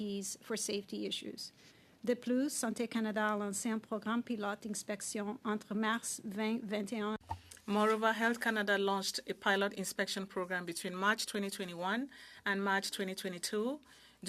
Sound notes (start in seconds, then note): 6.5 speaking French